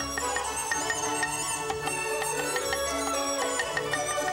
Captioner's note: joyful music; chopping